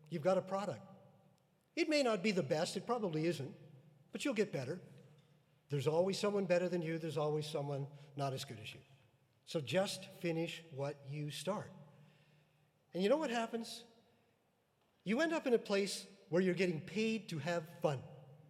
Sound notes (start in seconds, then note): none